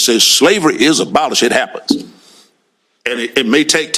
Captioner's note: none